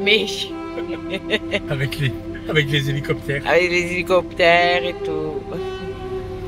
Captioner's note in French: rires